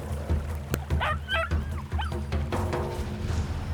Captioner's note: wolf whimpers